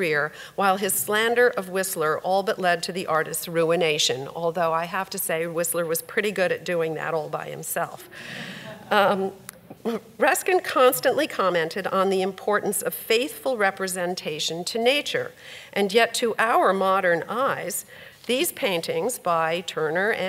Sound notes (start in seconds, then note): 8.6 audience laughs